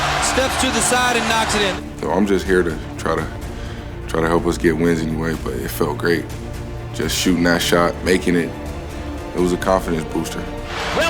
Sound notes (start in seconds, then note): 2.2 voiceover